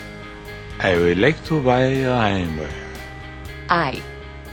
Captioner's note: french accent